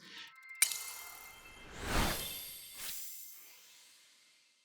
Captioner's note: logo whooshing